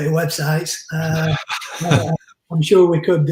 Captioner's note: laughs